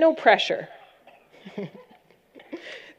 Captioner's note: laughter